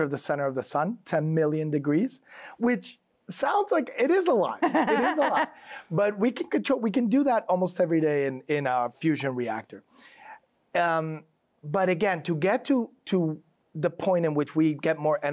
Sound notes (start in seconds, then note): 4.6 laughs